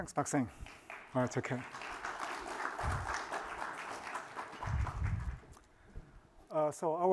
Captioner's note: applause